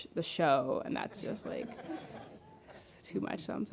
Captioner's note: audience laughing